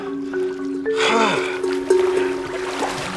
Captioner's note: gasps